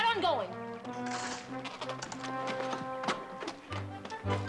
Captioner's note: branches crackling